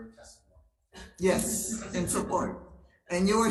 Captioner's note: attendees laughing